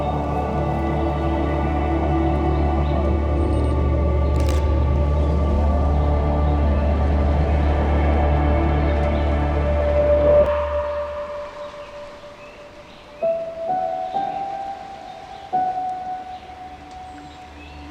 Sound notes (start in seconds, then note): 0.0 birds singing; 4.3 camera shutter; 13.4 somber music